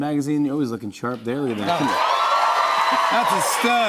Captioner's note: cheers and applause